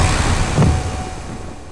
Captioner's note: buzzer; thump